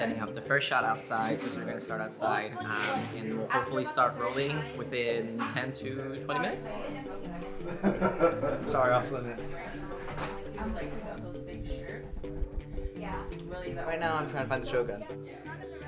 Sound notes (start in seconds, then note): 7.6 laughter